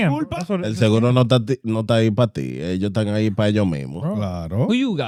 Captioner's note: speaking In Foreign Language